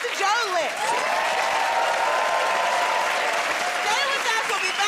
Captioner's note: cheers and applause